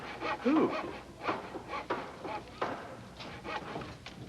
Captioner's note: sawing and hammering